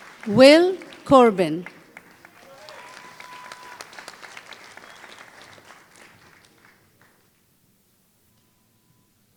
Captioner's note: applause